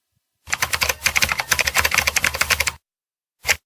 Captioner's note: very loud typing